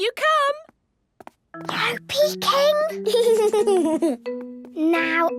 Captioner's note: whispering; Danny giggling